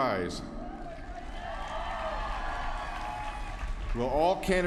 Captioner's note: applause